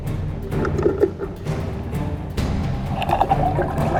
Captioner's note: shark grunting; taut energetic music